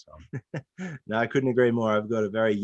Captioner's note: laughs